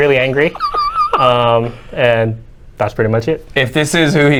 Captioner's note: wheezes